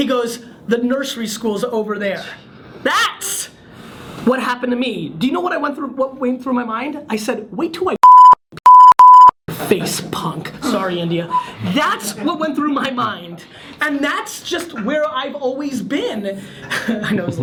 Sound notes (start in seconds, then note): 8.6 beep; 10.5 laughs; 16.6 laughs